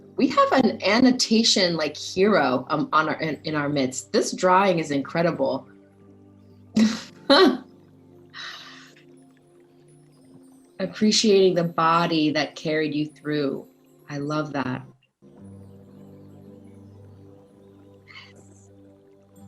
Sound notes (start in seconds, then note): 6.7 laughs; 15.5 soft music